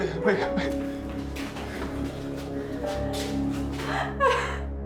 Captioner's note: Whitney sobbing